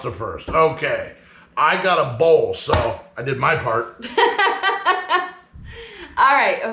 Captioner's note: laughing